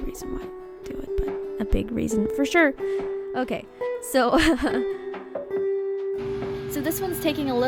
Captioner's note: laughs